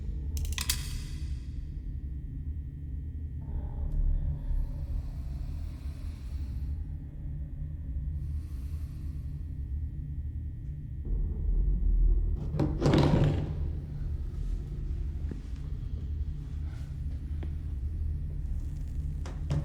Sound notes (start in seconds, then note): 0.1 gun closed; 3.4 breathes deeply